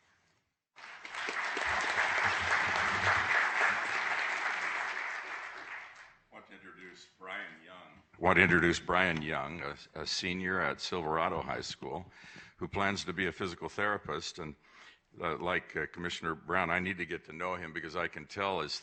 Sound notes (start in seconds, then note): 5.9 applause